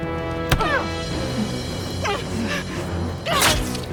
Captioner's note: body thuds; speakers grunt; knife plunges; Rachel grunts